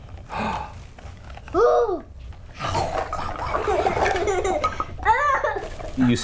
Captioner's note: makes playful chomping sounds